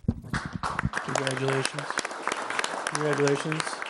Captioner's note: clapping